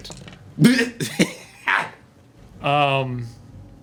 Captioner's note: laughing